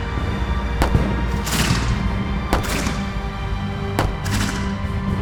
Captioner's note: gunshot cracking continues